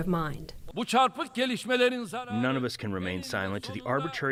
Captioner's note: through translator